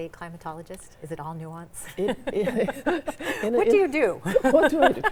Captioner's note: chuckles